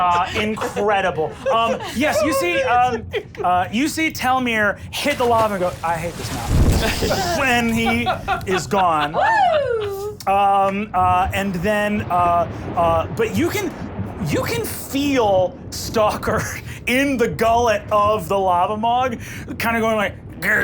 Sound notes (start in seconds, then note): 2.7 laughing